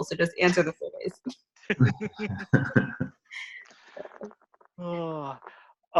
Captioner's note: laughter